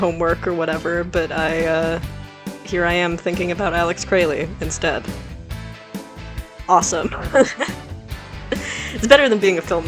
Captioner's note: laughs